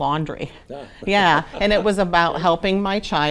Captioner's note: chuckles